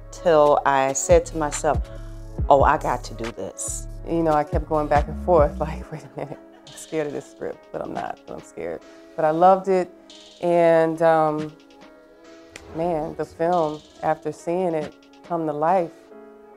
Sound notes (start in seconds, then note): none